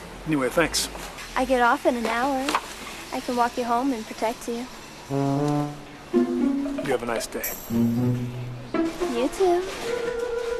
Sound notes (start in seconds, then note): none